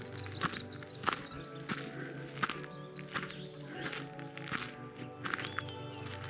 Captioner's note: birds chirping